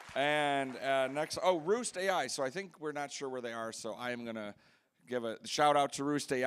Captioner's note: applause